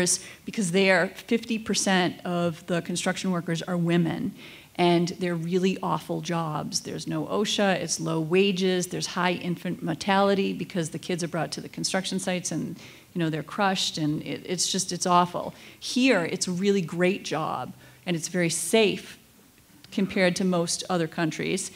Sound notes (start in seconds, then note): none